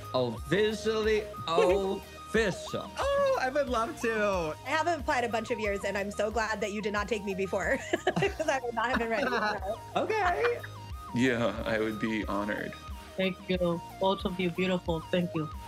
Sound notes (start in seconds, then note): 7.7 laughs